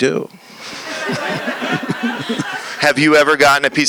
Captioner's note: laughter